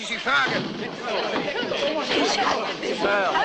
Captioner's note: clamouring